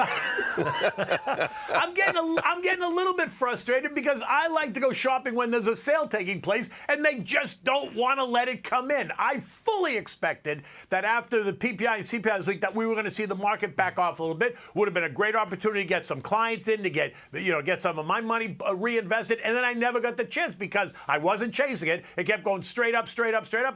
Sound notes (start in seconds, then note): 3.2 laughter